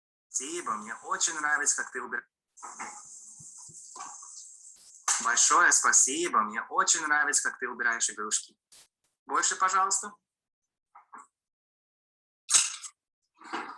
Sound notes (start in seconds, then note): 0.2 man speaking in foreign language